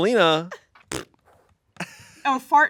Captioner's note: imitates farting